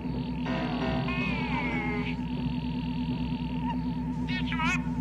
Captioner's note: cute Alien chatter